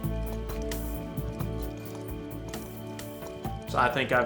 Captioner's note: crickets chirping